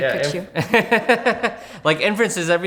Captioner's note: laughs